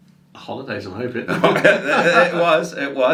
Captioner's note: laughs